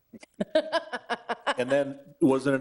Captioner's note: laughing